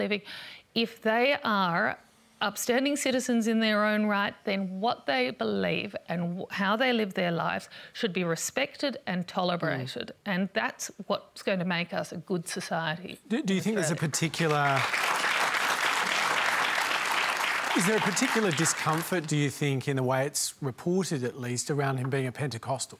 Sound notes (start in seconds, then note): 13.8 applause